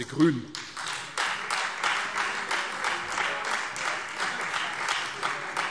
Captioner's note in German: Beifall Freie Demokraten